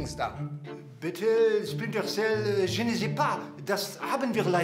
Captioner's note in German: Er sagt etwas auf Französisch